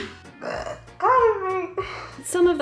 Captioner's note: burping quietly